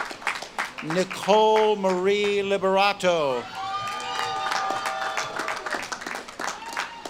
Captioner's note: audience claps and cheers